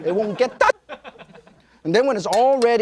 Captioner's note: audience laughing